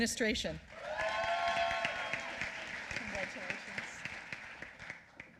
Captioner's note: applause